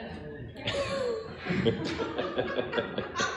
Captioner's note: laughing